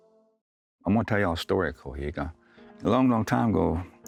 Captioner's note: speaks Cherokee